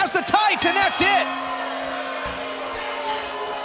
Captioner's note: bell ringing; crowd cheering